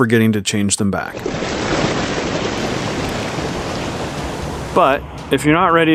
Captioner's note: wave crashing